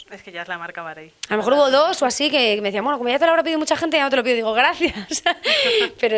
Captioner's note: laughs